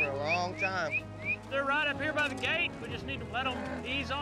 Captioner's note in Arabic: يصفر